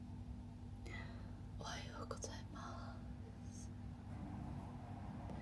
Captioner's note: whispering